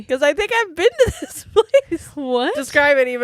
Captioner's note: giggles